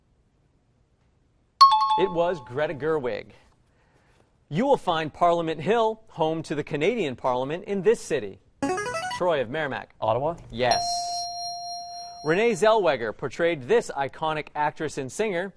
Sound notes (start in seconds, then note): 1.6 timer bell rings; 8.7 player buzzer; 10.7 ding